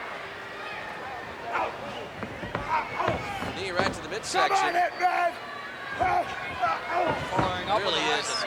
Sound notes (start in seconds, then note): 2.0 blows thudding; 2.4 wrestlers grunting; 7.0 blows thudding